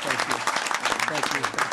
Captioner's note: applause